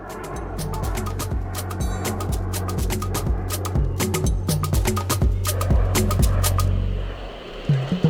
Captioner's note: whooshing